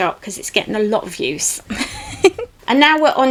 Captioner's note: giggles